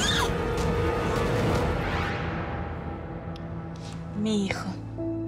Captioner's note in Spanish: gritos